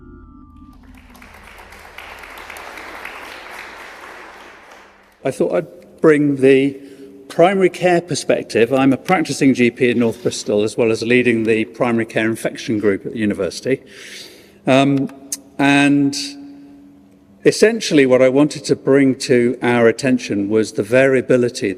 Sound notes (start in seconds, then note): 0.6 applause